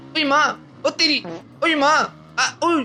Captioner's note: fart